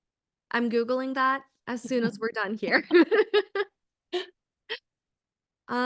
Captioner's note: laughs